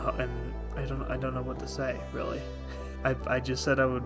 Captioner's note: laughs